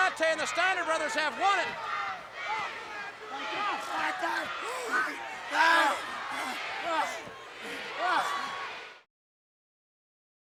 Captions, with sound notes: and the Steiner Brothers have won it. (crowd chanting) (Cactus Jack yelling)